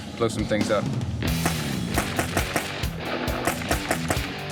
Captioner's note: banging